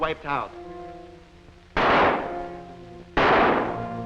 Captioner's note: gunshots